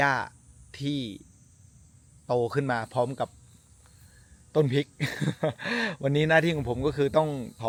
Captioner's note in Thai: เสียงหัวเราะ